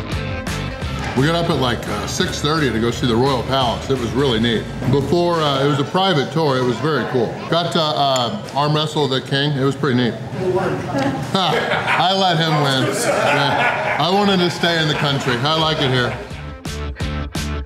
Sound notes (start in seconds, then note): 10.4 crowd